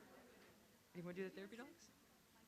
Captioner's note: none